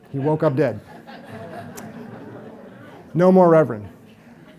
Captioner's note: audience laughs